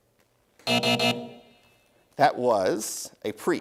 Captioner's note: buzzer